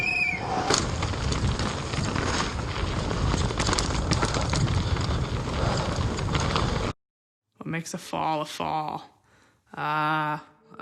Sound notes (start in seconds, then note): 0.0 whistle blows; 0.5 gravel crunching